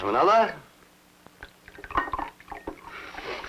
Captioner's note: liquid pouring